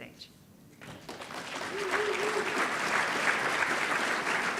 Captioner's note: audience applauding